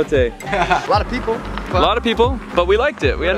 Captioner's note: laughs